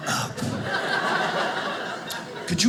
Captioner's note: audience laughing